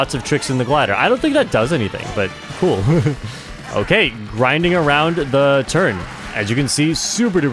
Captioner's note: laughs